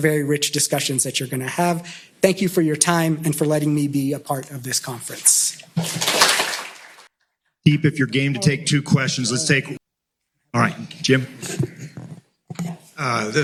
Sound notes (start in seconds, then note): 5.8 auidence applauding